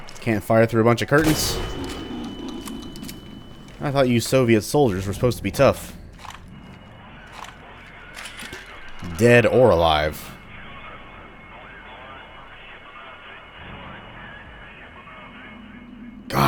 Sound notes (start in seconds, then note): 6.5 radio chatter from another Soviet Haunt